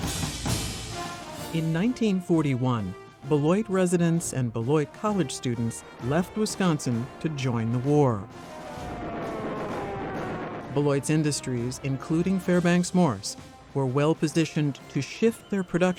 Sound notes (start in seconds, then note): 8.3 missiles soaring